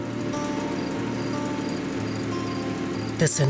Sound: running generator noise

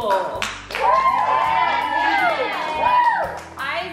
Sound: kids cheering

